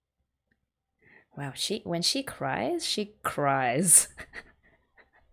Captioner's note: laughs